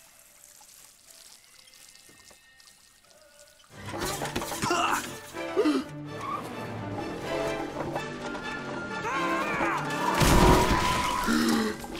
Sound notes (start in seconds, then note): 0.0 water splashing; 3.8 dramatic music; 9.0 screaming; 10.2 tires screeching; 11.3 gasping